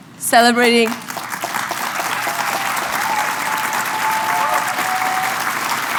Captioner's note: applause